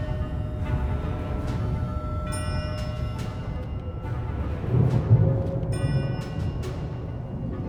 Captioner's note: howling wind and rumbling